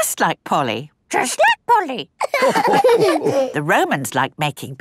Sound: all laughing

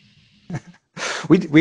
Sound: laughing

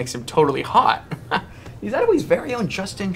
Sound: Jordy laughs

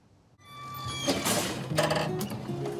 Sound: metal creaks

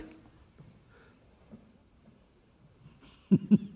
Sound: laughs

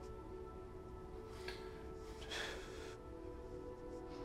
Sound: breathes shakily

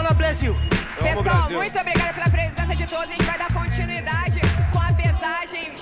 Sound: host speaking Portuguese

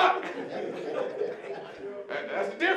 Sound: audience laughing

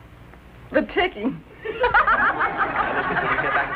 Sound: laughing

